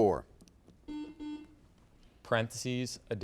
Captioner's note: buzzer beeps